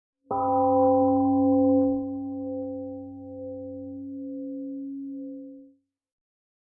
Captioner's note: temple gong fades